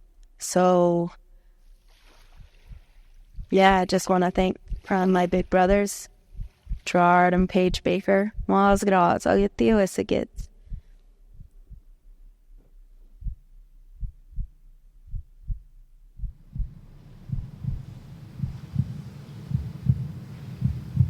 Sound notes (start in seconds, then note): 8.9 speaking Hidatsa; 13.8 heart beating; 16.4 water sloshing